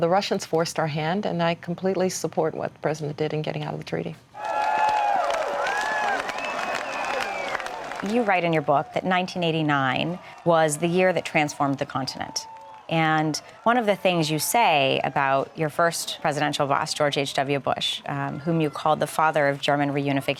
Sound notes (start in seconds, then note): 4.5 cheers and applause